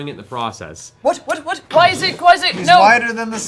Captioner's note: stammering